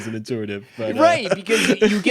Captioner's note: chuckles